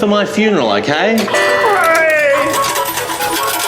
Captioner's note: cheers